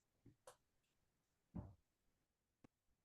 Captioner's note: silence